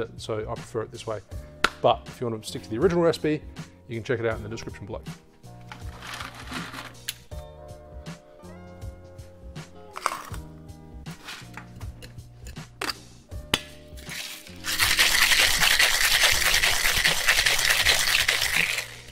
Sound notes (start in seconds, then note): 5.8 ice crinkling; 14.0 ice shaking